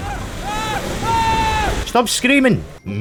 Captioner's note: screams frenchily